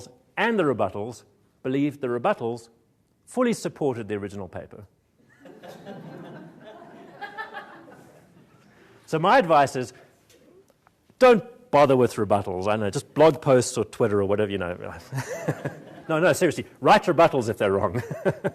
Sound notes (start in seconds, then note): 15.1 chuckles